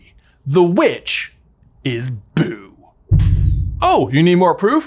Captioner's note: epic rumbling